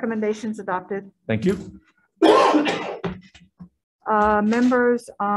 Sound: coughing

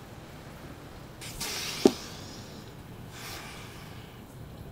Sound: loud sigh

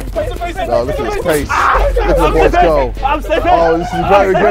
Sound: men chatting

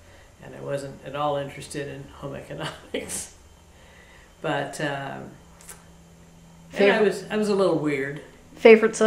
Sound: laughs

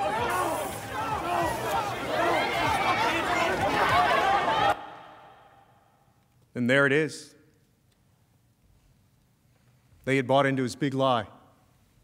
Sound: shouting

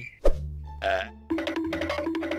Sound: cracker's wither storm burps

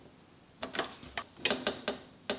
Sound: stencil squeaks; table squeaks

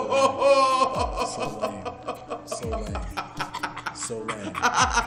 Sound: laugh

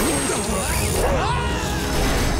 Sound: screaming

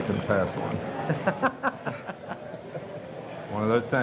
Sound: laughter

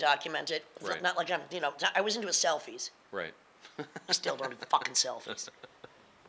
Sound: laughing

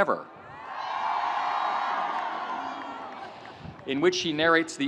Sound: audience cheering

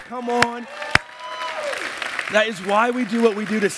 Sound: applause

